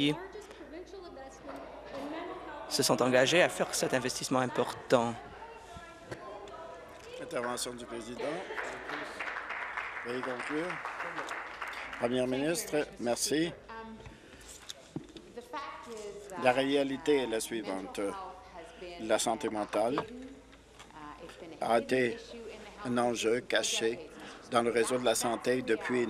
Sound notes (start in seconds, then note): 11.5 voice trailing off